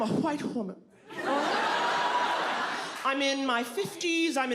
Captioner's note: audience laughs